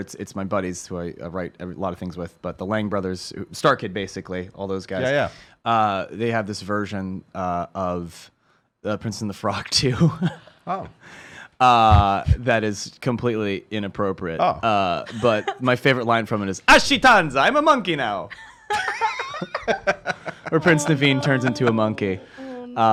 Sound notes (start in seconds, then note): 9.7 laughs; 18.7 laughs